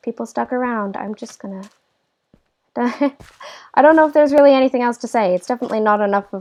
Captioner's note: laugh